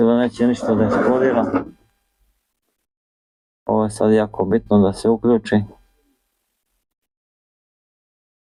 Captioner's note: coughs